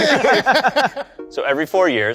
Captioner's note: laughing